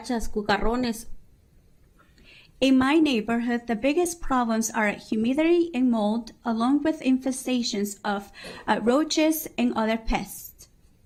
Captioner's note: speaking spanish